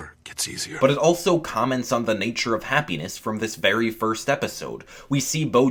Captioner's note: voiceover